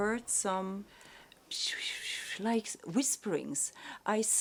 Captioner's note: whispering noises